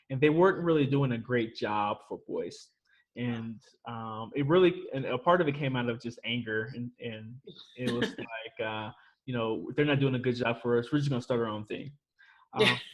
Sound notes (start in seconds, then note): 7.8 laughs; 12.8 laughs